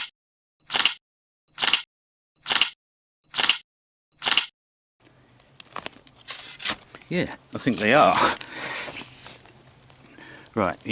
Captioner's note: six clicks as Six photos are taken